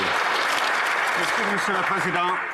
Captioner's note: some Applause